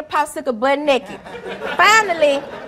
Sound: audience laughing

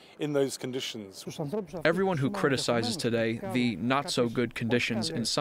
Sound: through translator

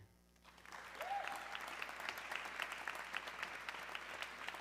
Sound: audience cheering

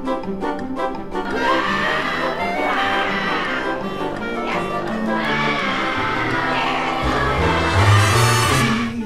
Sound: screams

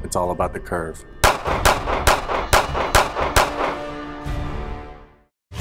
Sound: gun firing

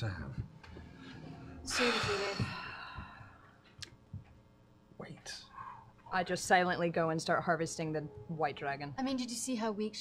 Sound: sighs heavily

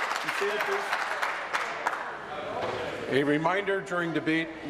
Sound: applause

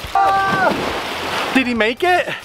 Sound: screams

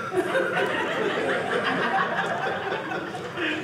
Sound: audience laughing

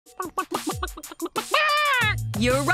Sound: clucking

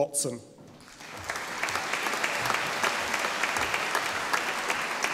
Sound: audience applauding

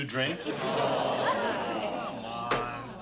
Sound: all sigh

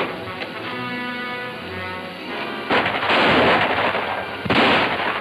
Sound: guns roaring

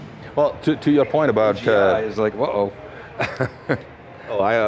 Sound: laughs

